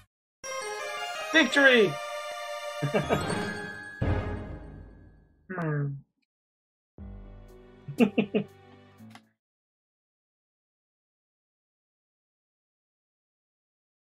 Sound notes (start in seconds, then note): 0.5 friendship fanfare; 2.8 chuckles; 7.9 chuckles